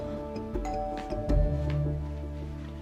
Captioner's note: doorbell